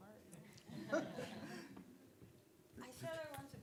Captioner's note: audience laughing